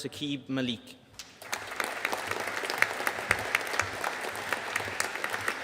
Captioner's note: audience applauding